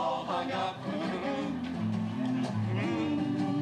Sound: humming

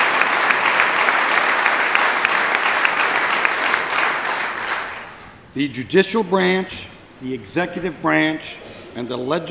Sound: applause

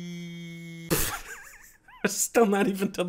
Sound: wheezing laughter

